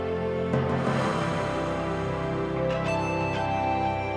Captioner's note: exhales slowly